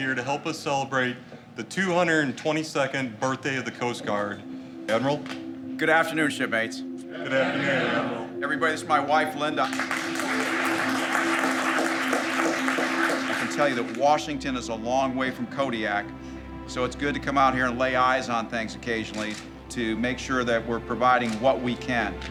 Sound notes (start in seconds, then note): 9.6 audience applauding